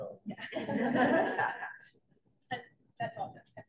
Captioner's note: laughter